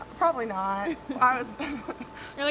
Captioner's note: chuckles